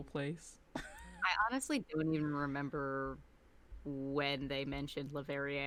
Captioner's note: laughs